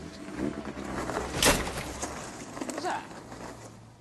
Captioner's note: crunching